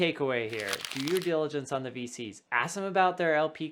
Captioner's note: paper rubbing